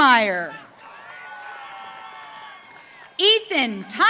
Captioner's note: audience cheering